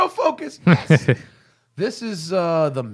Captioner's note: laughter